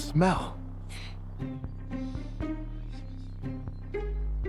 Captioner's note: Oliver sniffing